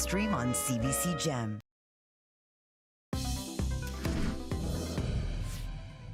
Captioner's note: speaking French